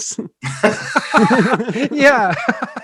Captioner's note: hosts laughing